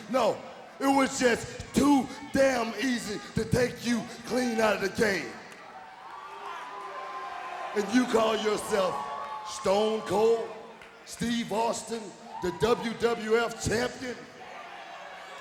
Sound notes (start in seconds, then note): 5.6 audience booing